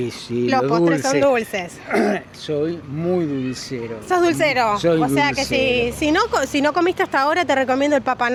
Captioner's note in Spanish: carraspeo